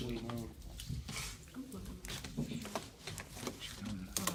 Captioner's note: students murmur